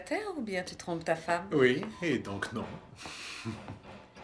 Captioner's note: chuckles